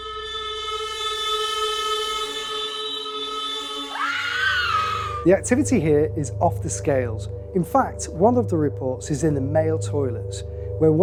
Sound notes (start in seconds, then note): 3.2 screams